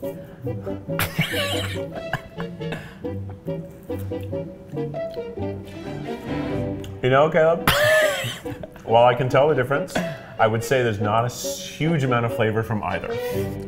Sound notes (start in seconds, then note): 5.4 laughing